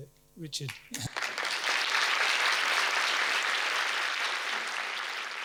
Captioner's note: audience applauding